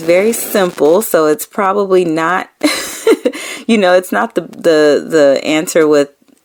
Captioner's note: laughing